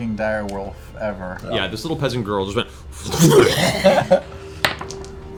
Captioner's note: growls